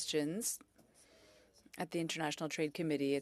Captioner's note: speaking French